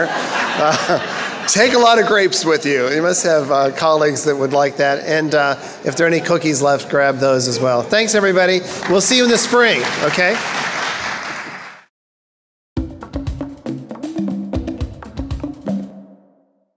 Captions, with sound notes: (laughing) Take a lot of grapes with you. You must have colleagues that would like that. And if there are any cookies left, grab those as well. Thanks everybody. (crowd applauding) We'll see you in the spring, okay? (energetic music)